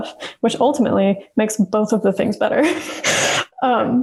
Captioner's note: laughs